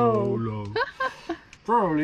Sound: laughs

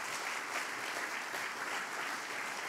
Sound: applause

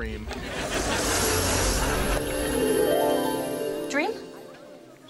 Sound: chimes twinkle

